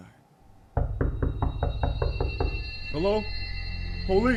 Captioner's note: knocking on the door